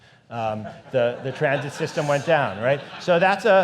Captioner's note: audience laughs